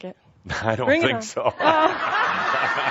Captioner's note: chuckling; lots of laughter